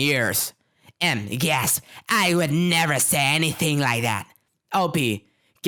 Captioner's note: gasp